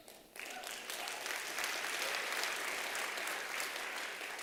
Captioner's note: applause